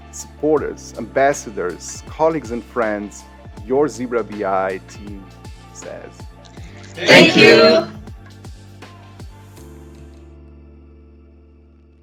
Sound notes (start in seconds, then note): 6.6 crowd; 8.5 upbeat music